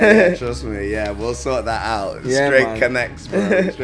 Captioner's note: laughs